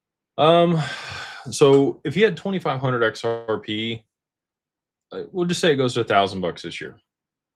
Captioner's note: sighs and gasps